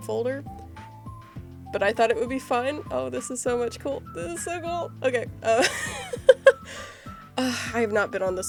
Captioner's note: laughs